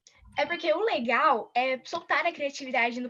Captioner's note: non-english speech